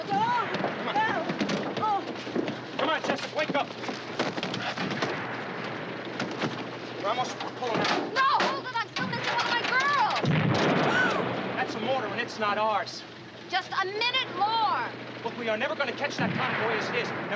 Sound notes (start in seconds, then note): 10.2 explosion; 11.3 gasping